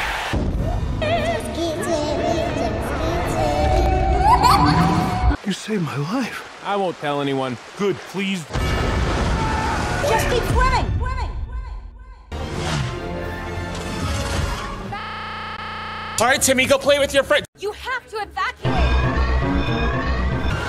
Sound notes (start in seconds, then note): 4.0 creepy child laughter